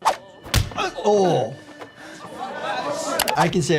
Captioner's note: fist smacks; players chattering